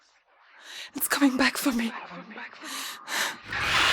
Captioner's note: deep breath; screech